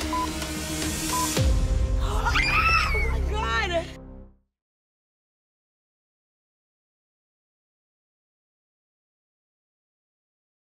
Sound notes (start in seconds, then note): 2.0 screams